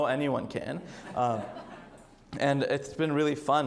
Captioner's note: audience laughs